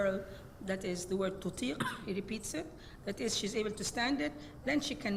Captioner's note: speaks Arabic